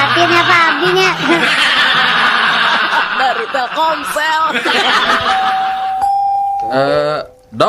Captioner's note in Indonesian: tertawa